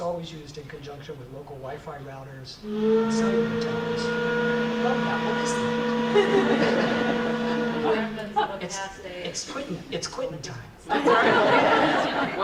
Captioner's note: audience laughs